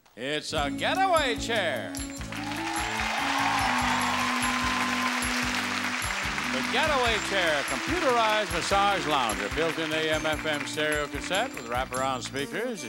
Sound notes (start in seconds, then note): 2.4 audience clapping; 2.4 relaxing music